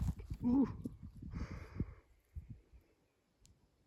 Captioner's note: whimpering sounds